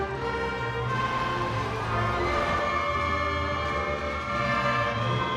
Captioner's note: scene whooshes